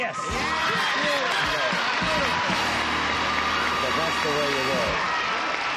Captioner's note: applause